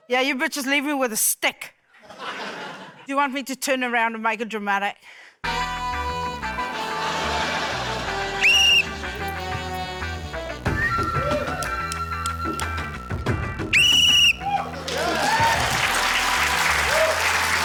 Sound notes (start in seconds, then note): 2.0 laughter; 6.9 funky horn music plays; 8.3 blows whistle; 11.3 scattered cheering; 13.8 blows whistle; 14.0 cheering, applause